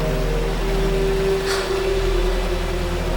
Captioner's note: deep sigh